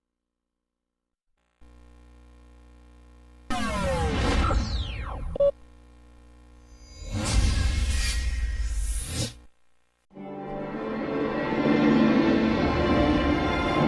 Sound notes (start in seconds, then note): 1.3 TV static; 3.5 winding-down video game sounds; 6.6 epic, dramatic sounds; 10.2 dramatic orchestral music playing